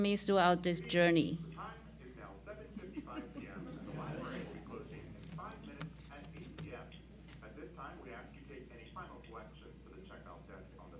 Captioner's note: speaker announcement